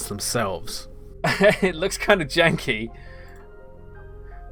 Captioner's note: laughs